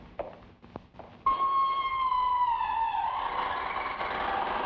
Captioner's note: boots clack; door creaks